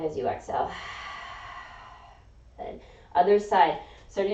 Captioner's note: exhaling